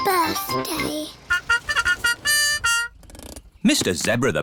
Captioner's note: horn tooting